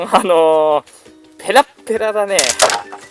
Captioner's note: laughs